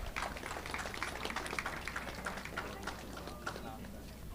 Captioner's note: audience clapping